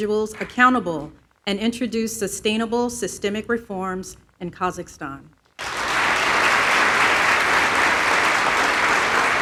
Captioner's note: applause